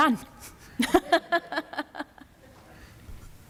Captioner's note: laughter